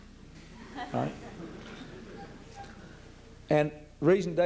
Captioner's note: light laughter